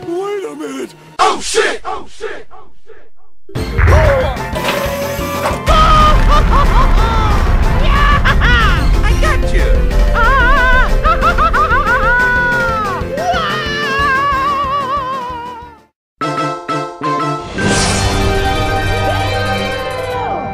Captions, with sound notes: WAIT A MINUTE! OH SHIT! *echoes* OOOF! Ooooohohohohooo! ...yaaah-- Ha-ha! I gotcha! WAAAAAAAAAAAH! Daaaaaaaayum!